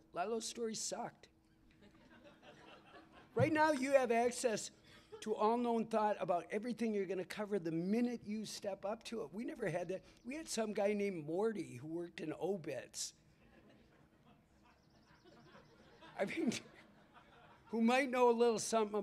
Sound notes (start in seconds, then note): 1.7 laughter